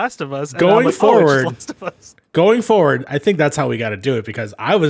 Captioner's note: laughs